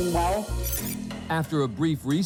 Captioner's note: tape fast-forwards